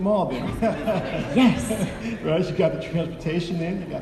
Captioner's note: audience laughing